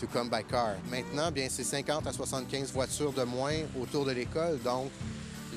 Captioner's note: speaking French